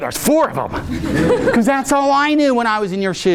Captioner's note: audience laughing